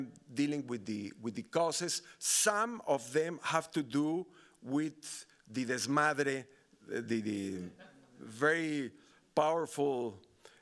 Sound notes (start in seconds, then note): 5.0 speaking Spanish